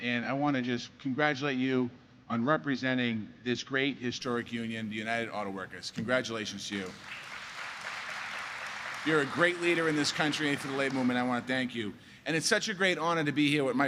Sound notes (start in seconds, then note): 6.7 applause